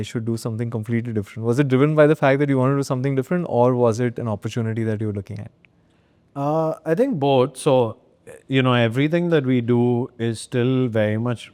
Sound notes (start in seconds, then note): none